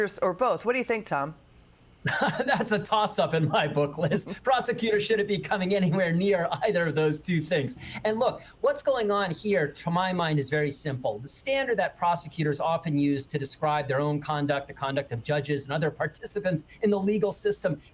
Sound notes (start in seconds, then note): 5.1 laughter